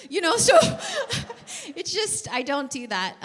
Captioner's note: laughs